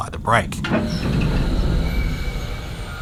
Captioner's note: brake noises